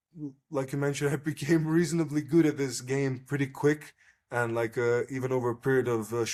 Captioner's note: laughs